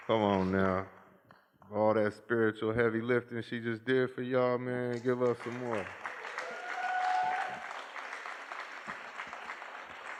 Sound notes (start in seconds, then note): 4.9 applause